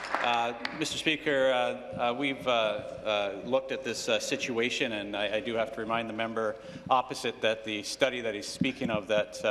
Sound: applause

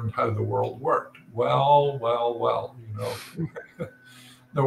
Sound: laugh

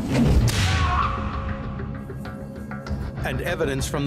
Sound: whip cracks; man screams

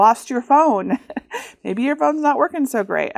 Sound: chuckles

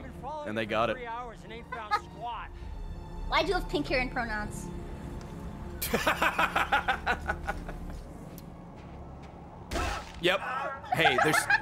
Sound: laughs

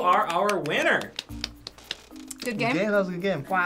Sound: golf clap

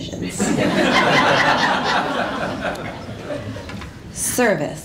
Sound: laughter

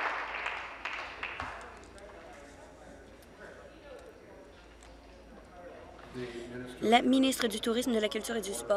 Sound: applause

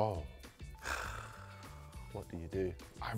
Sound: scoffs

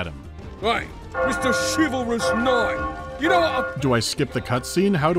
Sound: bell starts ringing

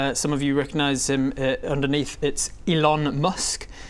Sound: none

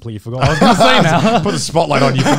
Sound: laughs

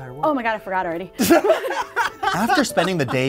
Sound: laughter

